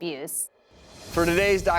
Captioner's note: air whooshing